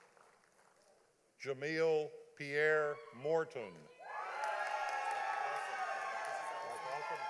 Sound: audience applauding

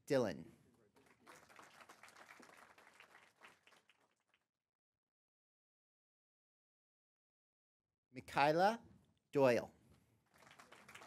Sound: applause; applause

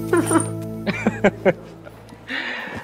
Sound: Harry Giggling; giggle

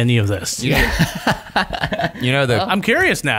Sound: laughter

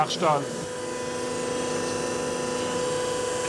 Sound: machine whirring

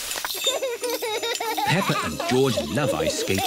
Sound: laughs

